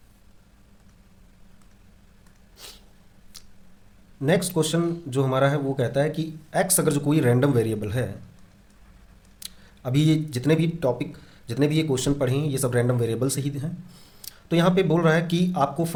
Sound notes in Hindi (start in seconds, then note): 2.5 नाक से की जाने वाली आवाज़